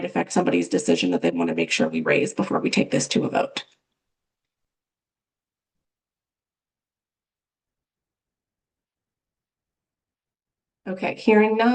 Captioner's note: pause